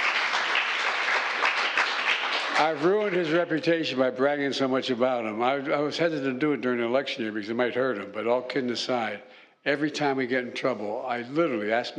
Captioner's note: applause